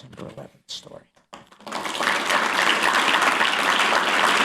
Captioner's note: applause